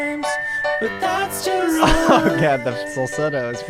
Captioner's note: laughs